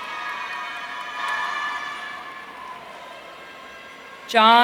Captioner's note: audience cheering